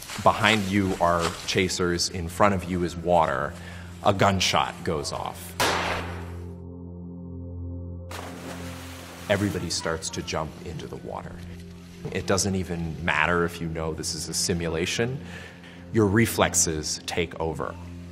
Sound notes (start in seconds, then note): 5.6 gunshot; 6.6 somber music; 8.1 water splashing